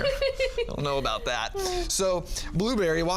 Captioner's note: laughs